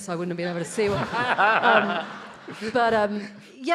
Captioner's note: audience laughing